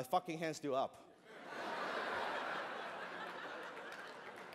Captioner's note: laughter